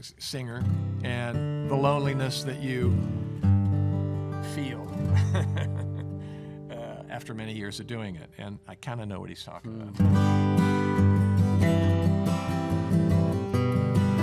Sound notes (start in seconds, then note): 5.0 chuckles; 10.1 mellow music